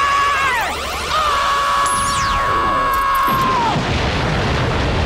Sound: screaming

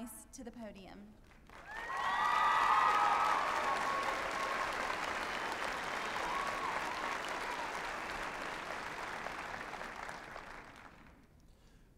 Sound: applause and cheering

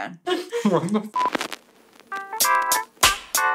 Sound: beep; electronic music

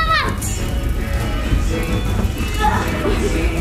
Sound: fire crackling sound effect; dramatic music

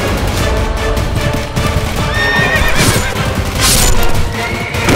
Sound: horse neighs

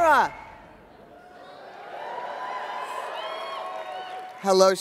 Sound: audience cheers

